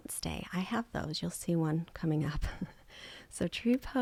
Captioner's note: chuckles